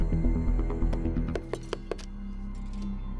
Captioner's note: Knocking at the door